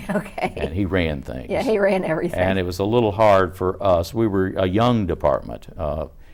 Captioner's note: laughs